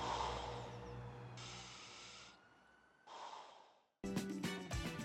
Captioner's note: breathing through mask